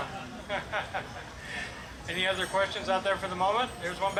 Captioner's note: laughs